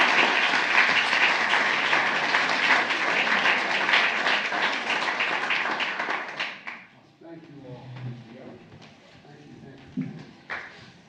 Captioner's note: applause